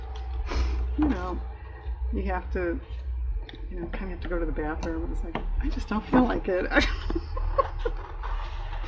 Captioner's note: laughs